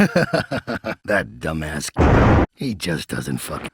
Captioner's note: more laughing; convenient thunder